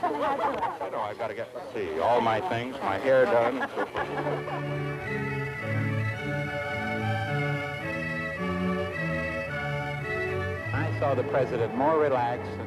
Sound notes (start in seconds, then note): 2.3 laughter; 5.2 processional music